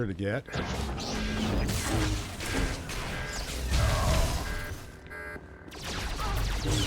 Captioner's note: gunshots